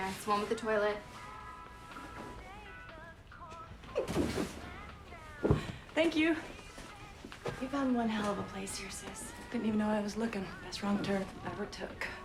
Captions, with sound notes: It's one with the toilet. (box thudding) - Thank you. - You found one hell of a place here, sis. - Didn't even know I was looking. Best wrong turn ever took.